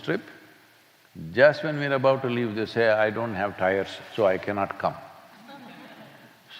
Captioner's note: few laugh